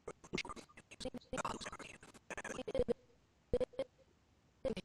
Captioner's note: audio skipping